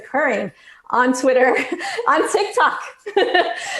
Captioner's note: laughs loudly